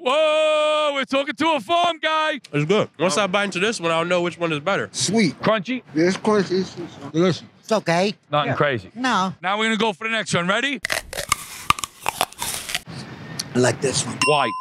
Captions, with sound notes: - Whoa! We're talking to a farm guy. - It's good. Once I bite into this one, I'll know which one is better. - Sweet. - Crunchy? - Yeah, it's crunchy. - Delicious. - It's okay. - Nothing crazy? - No. - Now we're going to go for the next one. Ready? (apple crunching) - I like this one. - (ding) Why?